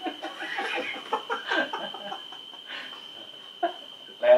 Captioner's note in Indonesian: ketawa Monyet